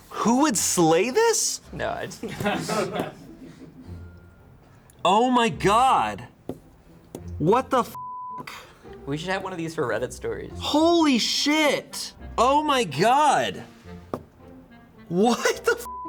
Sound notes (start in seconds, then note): 2.6 crew members laughing; 7.9 beep; 15.8 beep